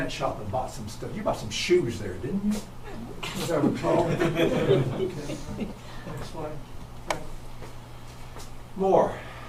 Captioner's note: audience chuckles